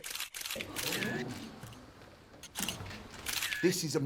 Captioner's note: reporters gasping; cameras clicking